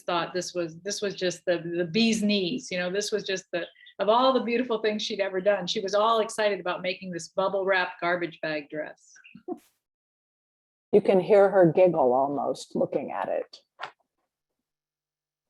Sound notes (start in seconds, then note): 9.4 laughter